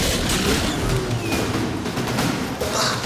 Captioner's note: whine